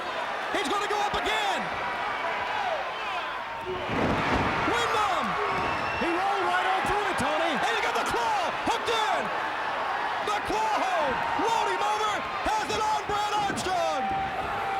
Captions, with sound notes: He's gonna go up again. (fans shouting) (body thudding) Windham. He rolled right on through it, Tony. And he got the claw hooked in. The claw hold. Rolled him over, has it on Brad Armstrong.